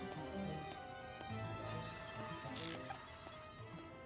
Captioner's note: beeps